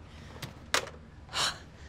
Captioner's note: phone slams down; Kate sighing